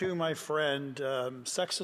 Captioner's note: speaking French